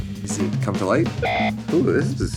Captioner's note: buzzer beeps